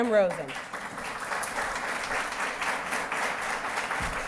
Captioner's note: applause